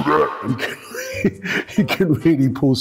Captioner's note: laughs